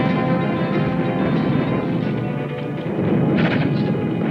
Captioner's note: artillery booming